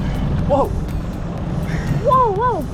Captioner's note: engine roaring